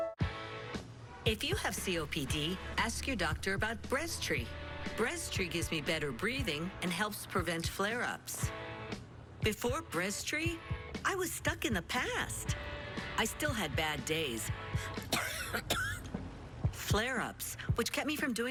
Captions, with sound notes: If you have COPD, ask your doctor about BREZTRI. BREZTRI gives me better breathing and helps prevent flare-ups. Before BREZTRI, I was stuck in the past. I still had bad days, [coughing] flare-ups,